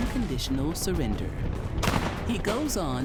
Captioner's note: sounds of battlefield